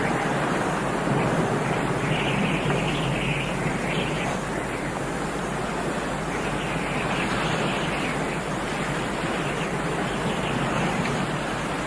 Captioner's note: wind Sounds